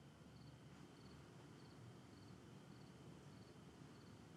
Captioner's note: insects chirping